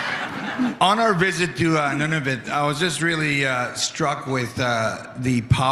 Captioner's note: laughter